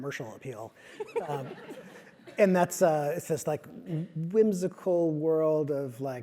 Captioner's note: laugh